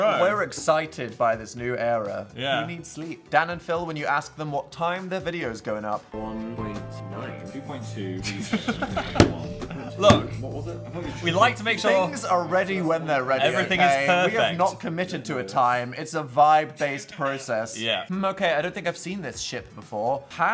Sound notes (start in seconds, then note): 8.2 both laughing